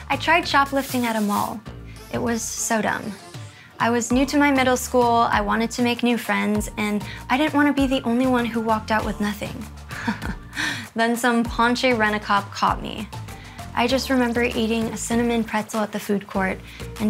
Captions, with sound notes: I tried shoplifting at a mall, it was so dumb. I was new to my middle school, I wanted to make new friends, and I didn't want to be the only one who walked out with nothing. (chuckles) Then, some paunchy rent-a-cop caught me. I just remember eating a cinnamon pretzel at the food court,